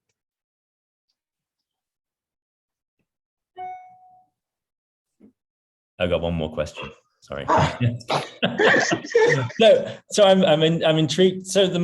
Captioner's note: laughs